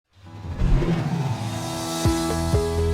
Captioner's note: title whooshes; upbeat music